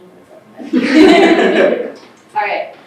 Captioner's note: everyone laughing